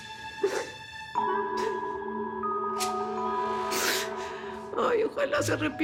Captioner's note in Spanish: Sollozos